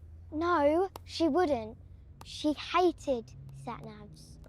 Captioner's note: none